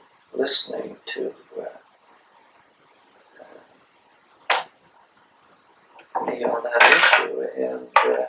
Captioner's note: gap in audio taping